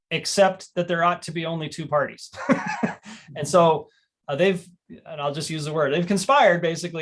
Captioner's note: laughter